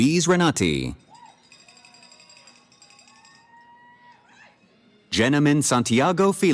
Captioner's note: cheering